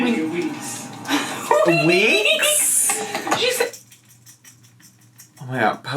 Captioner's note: laughs